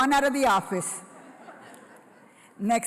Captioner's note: laughter